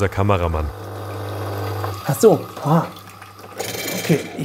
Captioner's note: whirring noises